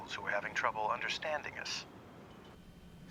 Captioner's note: none